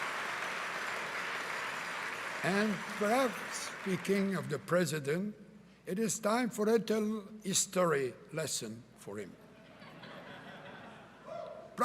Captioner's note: cheering and Applause